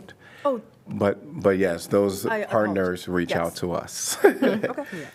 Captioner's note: laughter